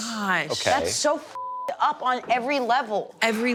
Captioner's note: beep